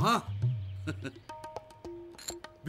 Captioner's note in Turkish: gülme sesi̇